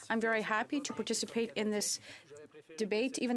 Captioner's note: speaking French